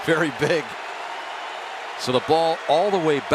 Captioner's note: booing